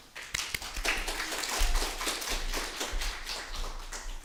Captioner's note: applause